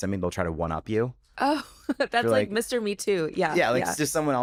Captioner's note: chuckles